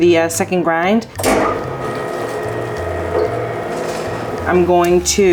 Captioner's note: grinder humming